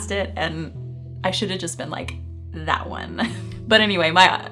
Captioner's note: chuckling